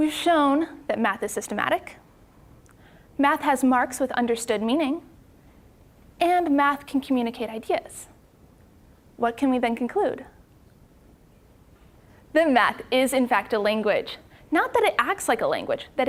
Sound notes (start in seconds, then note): none